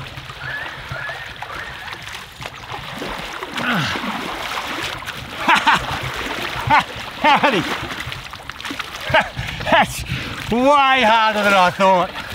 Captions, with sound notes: [laughing] Howdy. That’s way harder than I thought.